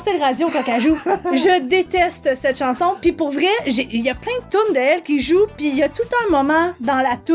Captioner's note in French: rire